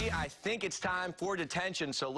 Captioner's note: cheers and applause